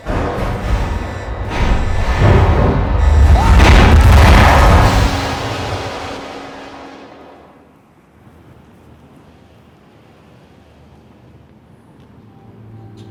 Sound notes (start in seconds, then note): 0.0 loud metallic pounding; 3.0 screams